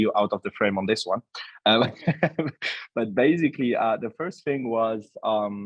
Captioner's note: laughs